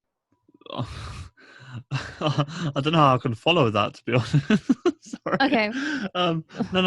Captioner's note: laughs